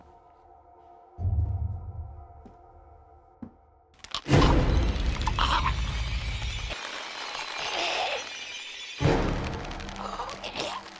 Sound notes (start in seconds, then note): 4.0 dramatic music; 5.2 man choking; 6.7 dramatic music; 6.7 man choking